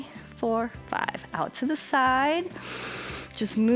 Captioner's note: inhales